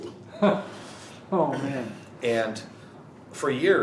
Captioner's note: laughing